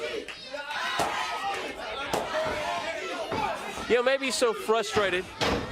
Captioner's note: crowd cheering